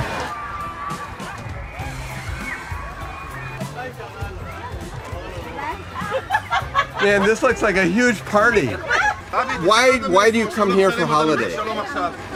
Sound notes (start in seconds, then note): 0.2 upbeat bouncy music; 3.4 crowd chatter